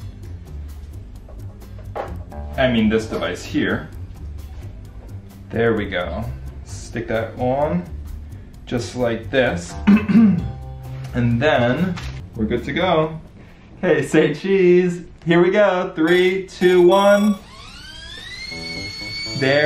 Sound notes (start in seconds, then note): 0.1 offbeat music; 9.8 clears throat; 16.6 machine whirs